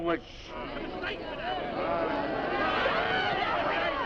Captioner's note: crowd shouting